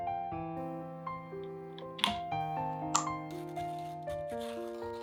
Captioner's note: crushing